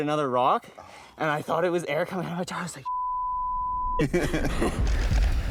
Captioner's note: beep; laughing